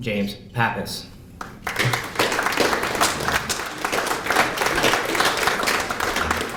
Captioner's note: applause